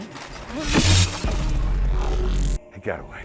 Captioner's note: electricity buzzing